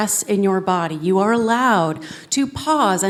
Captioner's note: none